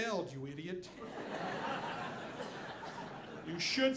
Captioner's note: audience laughing